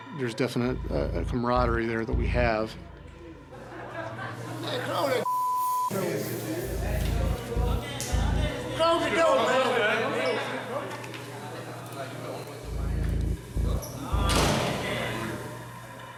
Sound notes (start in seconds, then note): 14.3 clangs